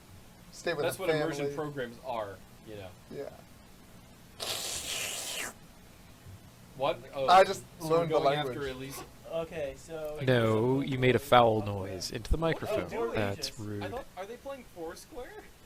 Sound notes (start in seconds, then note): 4.4 medibot makes a loud slurping sound